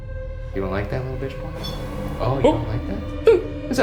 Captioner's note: REM-pod beeps